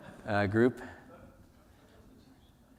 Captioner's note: laughter